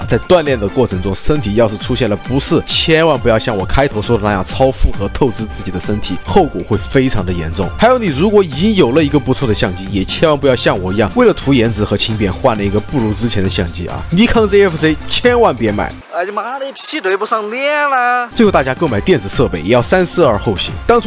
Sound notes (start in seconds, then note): 16.1 beautiful Sichuan dialect